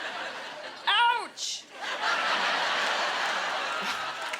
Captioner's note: laughter